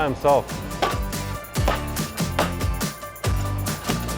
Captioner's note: machine tapping